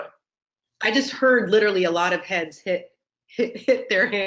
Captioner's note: laughs